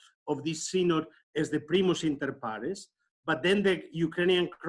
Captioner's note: speaks in foreign language